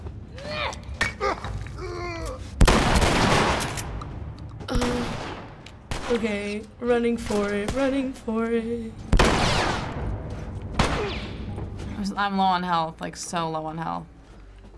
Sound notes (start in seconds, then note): 0.1 Ellie grunts, throws something; 0.1 groans; 9.2 bullet ricochets